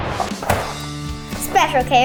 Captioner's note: animated explosion booming; upbeat instrumental music; cereal box thudding